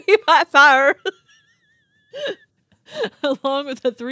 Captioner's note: wheezing